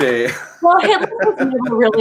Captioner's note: laughs